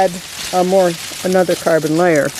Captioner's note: leaves crumbling sounds